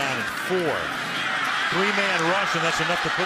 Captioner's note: cheering